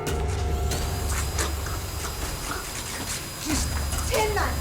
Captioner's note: dramatic music; drill whirring; Richard gagging